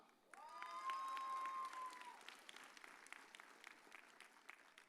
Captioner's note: audience cheers